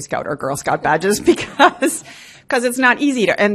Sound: laughs

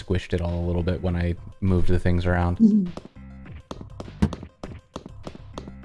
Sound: footsteps

